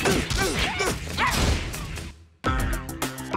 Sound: screaming

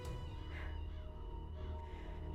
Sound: breathes deeply

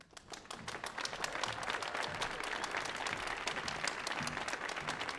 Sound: audience applauding

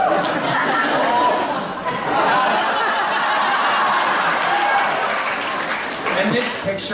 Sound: audience laughs

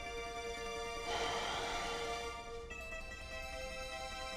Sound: both exhales

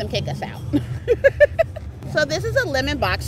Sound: laughs

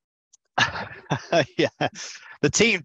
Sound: laughing

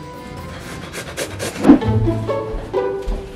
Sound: heavy breathing; upbeat music

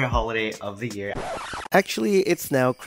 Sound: rewind sound

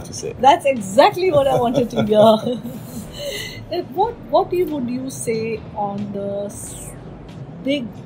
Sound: laughs

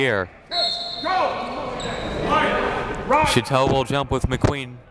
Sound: referees shouting commands

